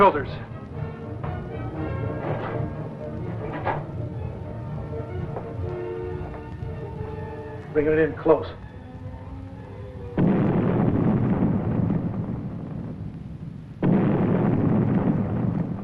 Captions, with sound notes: Bring it in close. [explosions] It's gone.